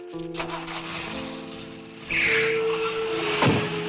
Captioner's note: engine revving